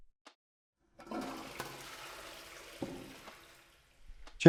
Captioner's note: toilet flushing